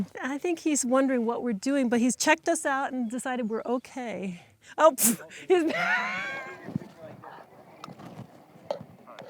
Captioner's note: laughter